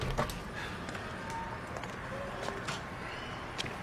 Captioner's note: distant traffic